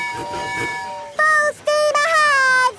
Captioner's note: tooting